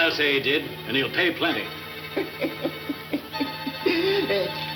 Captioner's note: Cactus laughing